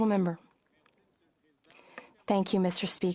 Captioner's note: speaking French